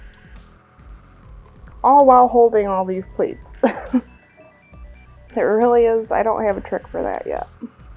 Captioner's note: laughs